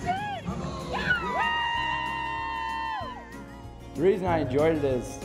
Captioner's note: background talking; cheering